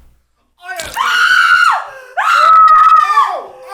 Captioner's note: ear shattering screaming